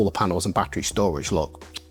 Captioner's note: chef’s kiss